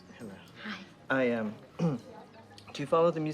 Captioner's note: clears throat